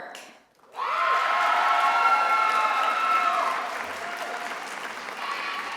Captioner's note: attendees applauding and cheering